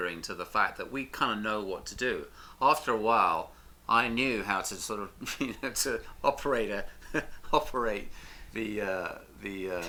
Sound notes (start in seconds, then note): 5.7 laughs